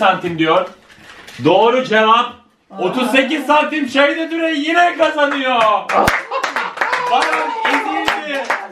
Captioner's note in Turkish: kahkaha ve alkiş sesleri̇